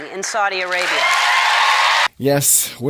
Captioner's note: loud applause from audience